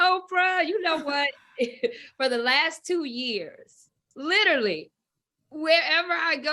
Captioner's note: laughs